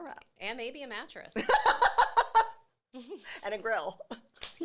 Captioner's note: laughing